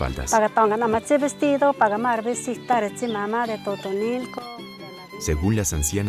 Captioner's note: speaking Otomí